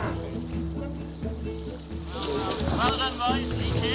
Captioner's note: cow moos; pensive music; water trickles